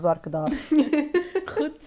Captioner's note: laughs